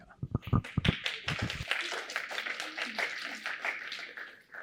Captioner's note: applause